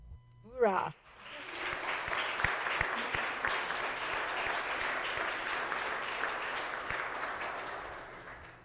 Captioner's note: applause